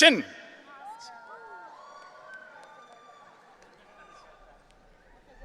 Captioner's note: audience cheering